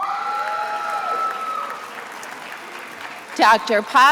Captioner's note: attendees applauding